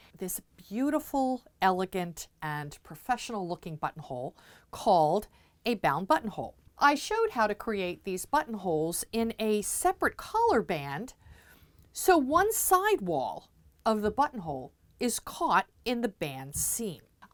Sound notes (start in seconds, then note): none